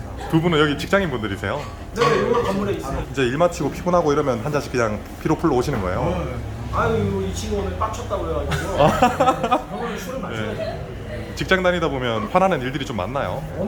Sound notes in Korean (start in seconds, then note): 8.1 ㅎㅎㅎ, ㅎㅎㅎ